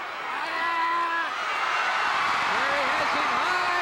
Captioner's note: Ric shouting